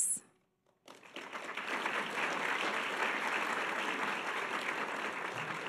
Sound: audience applause

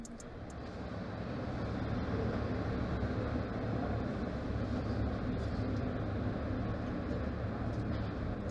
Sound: sound of traffic

